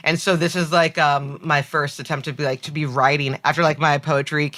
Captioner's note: none